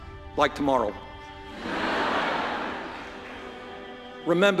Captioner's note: laughter